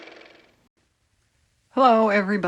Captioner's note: car motor